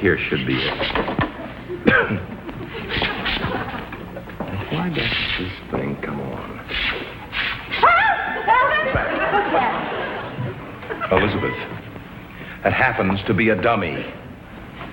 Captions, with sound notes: I feel like this one right here should be it. (coughs) Now why won't this thing come on? - (startled scream) Alvin! What's that? - Elizabeth. That happens to be a dummy.